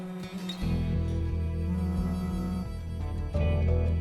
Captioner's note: phone vibrating